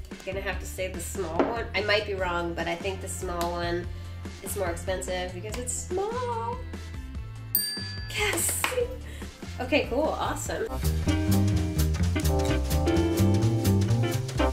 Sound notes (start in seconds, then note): 7.5 bell rings; 8.2 claps; 9.5 jazz music